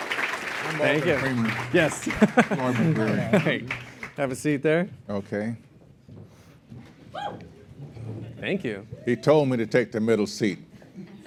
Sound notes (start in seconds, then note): 1.8 laugh